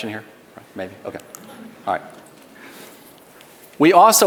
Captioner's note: audience laughs